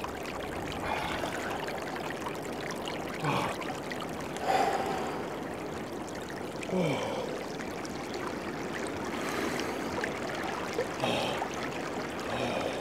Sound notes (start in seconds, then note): 4.4 heavy breathing